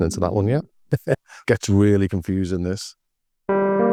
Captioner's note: laughs